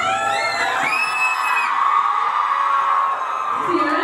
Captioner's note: crowd cheers